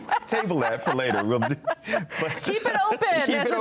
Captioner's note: both laughing